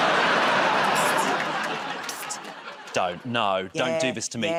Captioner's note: laughter and applause